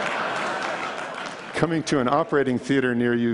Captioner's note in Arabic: ضحك